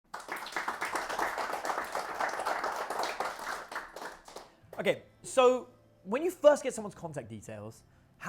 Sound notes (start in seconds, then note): 0.0 audience clapping